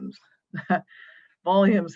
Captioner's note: chuckles